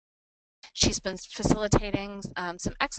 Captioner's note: voiceover